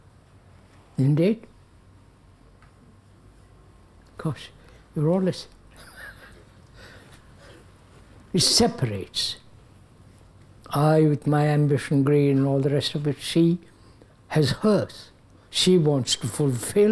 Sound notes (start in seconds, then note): 5.8 laughs